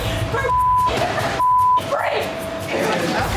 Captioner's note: beep